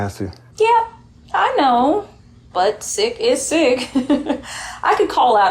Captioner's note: giggles